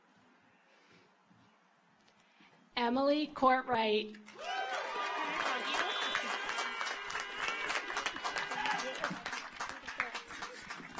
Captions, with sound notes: Emily Kortright. (audience applauds) (car horns honking)